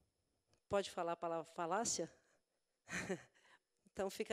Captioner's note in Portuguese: risos